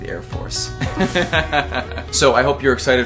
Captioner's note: both laughing